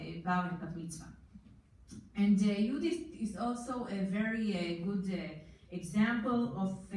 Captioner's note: foreign language